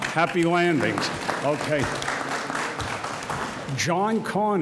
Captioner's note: audience applauds